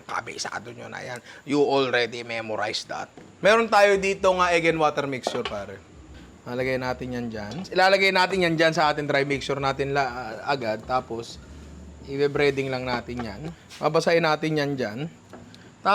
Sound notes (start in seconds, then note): none